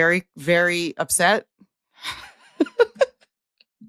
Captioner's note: laughs